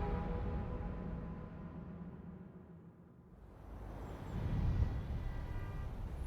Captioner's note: train horn blows